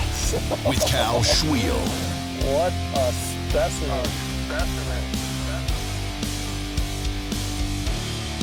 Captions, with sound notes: - [Voiceover] With Cal Svihel. - What a specimen. (rock music)